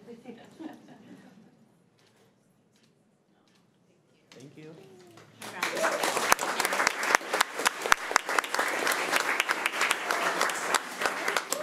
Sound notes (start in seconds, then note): 0.2 crowd giggling; 5.1 crowd clapping